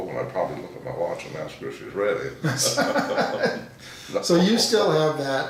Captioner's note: laughing